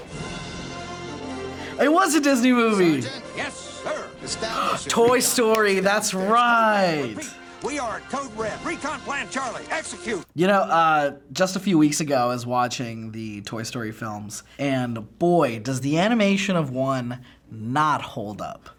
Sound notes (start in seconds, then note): 0.5 triumphant music; 4.4 gasps